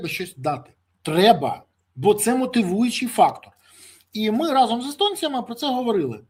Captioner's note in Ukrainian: сопіння